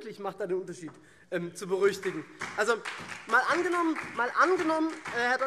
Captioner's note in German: Vereinzelter Beifall SPD und CDU